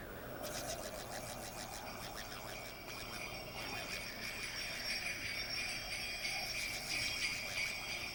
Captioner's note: sleigh bells ringing